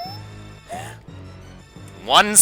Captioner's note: sigh